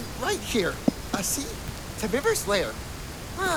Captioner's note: knocks on wall